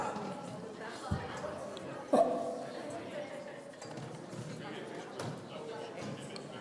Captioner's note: people in the audience conversing